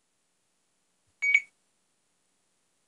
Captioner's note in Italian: beeep